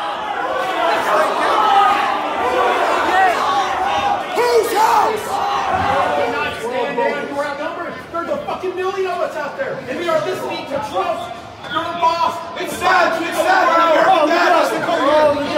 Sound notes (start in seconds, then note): 0.0 crowd yelling; 5.5 crowd; 12.7 crowd yelling